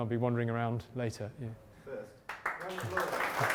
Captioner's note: voiceover; clapping